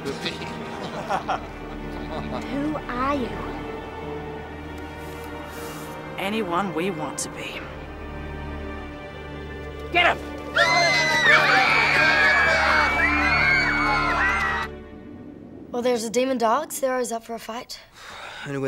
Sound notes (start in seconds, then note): 0.8 laughing; 10.5 screaming